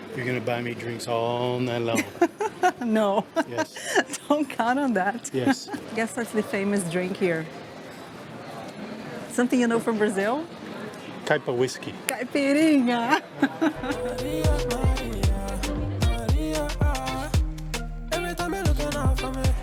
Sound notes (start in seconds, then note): 1.9 laughs; 13.0 laughs